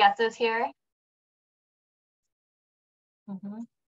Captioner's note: silence